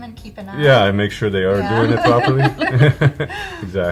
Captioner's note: laughing